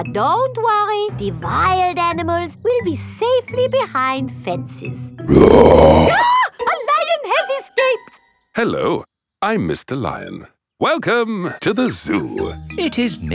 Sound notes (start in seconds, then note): 5.3 roars; 5.3 screams